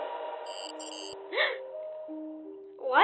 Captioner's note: gasp